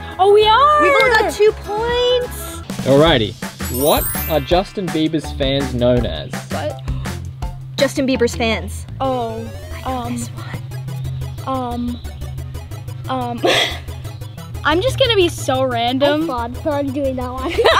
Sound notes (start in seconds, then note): 9.5 whispers; 17.4 laughs